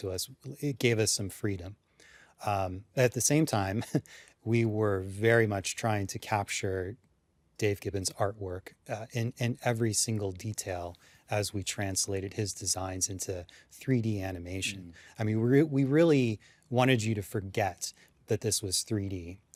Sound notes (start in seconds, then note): 3.7 chuckles